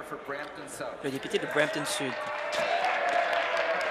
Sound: applause

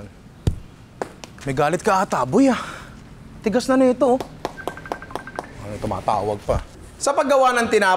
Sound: line ringing

